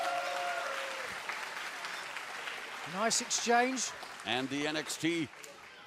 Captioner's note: crowd cheering